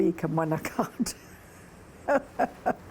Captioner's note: laughter